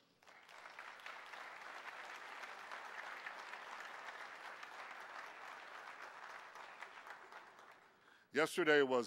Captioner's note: clapping